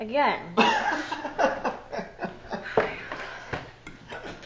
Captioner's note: laughing